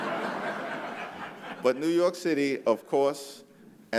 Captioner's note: laughter